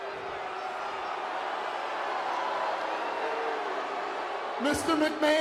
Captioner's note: audience booing